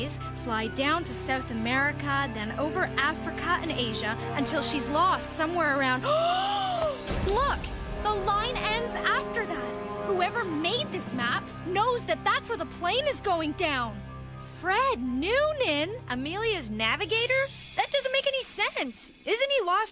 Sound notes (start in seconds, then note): 5.7 gasp